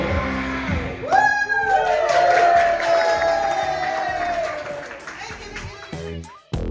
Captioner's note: applause